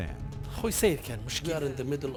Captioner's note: speaks in foreign language